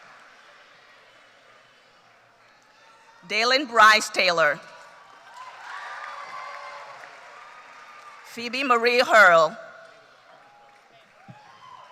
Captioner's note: cheers and Applause